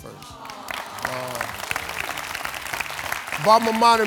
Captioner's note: audience claps